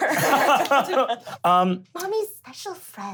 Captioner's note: laughing